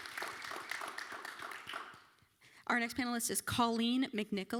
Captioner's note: applause